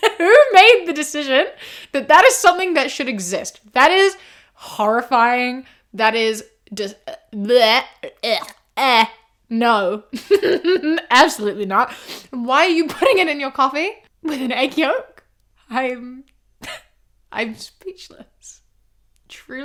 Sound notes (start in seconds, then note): 8.3 gagging sounds